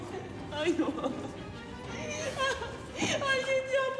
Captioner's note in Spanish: llanto